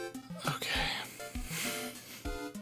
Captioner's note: smiling frustration air noise